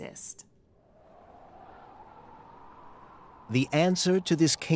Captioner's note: wind howling